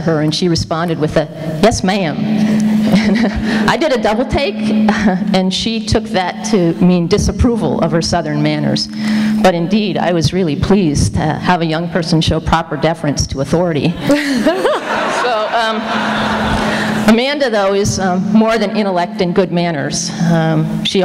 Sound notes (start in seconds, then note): 14.0 laughter